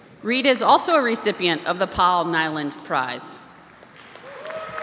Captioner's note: applause